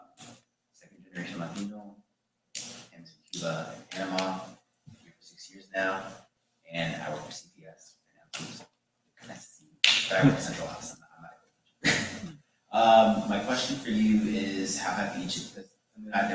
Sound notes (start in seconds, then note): 8.6 faintly speaking; 15.2 faintly speaking